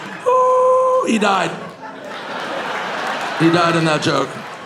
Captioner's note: audience laughing